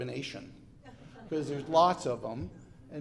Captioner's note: polite laughter